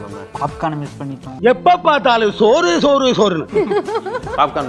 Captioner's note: cussing angrily